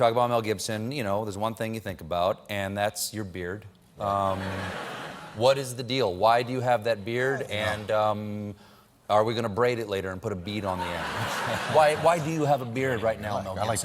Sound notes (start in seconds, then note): 4.1 laughter